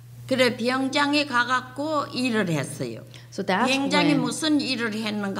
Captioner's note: speaking foreign language